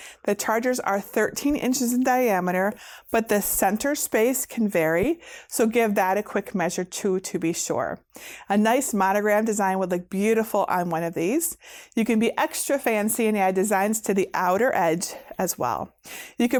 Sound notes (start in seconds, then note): none